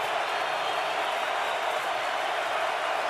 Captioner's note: crowd cheering